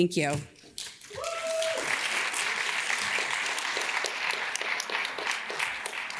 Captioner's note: audience cheers and claps